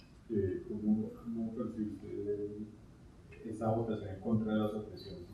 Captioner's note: speaking in Spanish